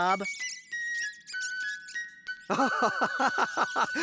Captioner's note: mice Squeaking; laughing